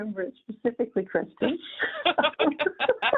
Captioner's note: laughter